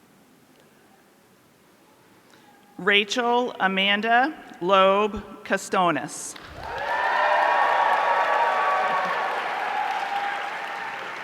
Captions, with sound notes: Rachel Amanda Lobe-Costonis. (audience cheering)